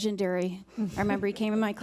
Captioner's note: laughing